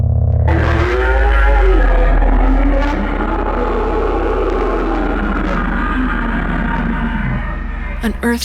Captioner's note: a long, deep, rattling, nightmarish ROAR